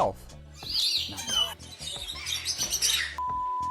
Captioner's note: birds chirping